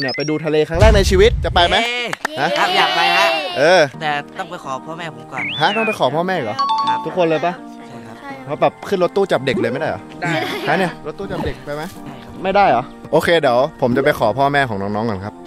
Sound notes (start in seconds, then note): 2.3 cheering